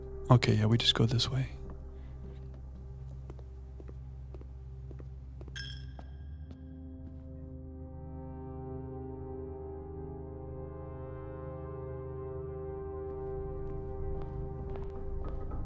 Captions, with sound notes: Okay, yeah, we just go this way. (bell dings) (soft music) (soft music)